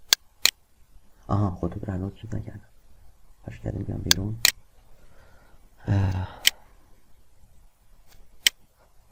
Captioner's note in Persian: صدای آه